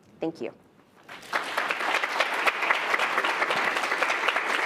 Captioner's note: audience applauds